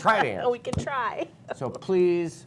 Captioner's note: laughter